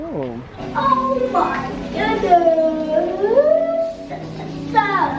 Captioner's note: excited children